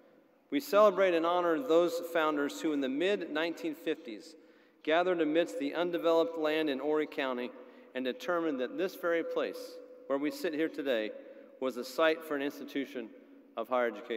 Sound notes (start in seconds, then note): none